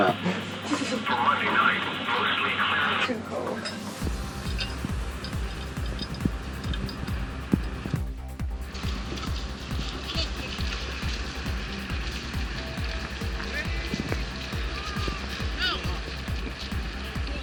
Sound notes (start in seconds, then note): 0.7 shivers